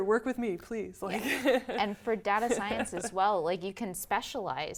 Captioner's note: laugh